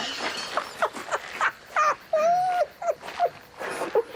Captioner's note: richard laughs